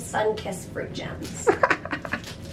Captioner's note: chuckling